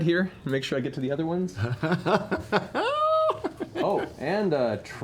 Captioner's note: laughter